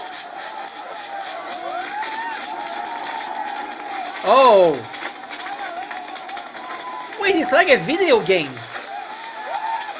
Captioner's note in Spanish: Aplausos